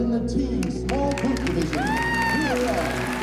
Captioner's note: cheering and applause